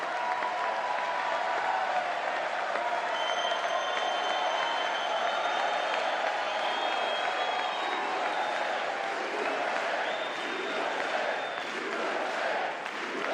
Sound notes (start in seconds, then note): 5.4 audience chanting "usa"